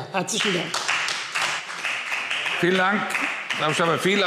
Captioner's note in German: Anhaltender Beifall Freie Demokraten